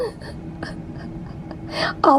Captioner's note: chuckling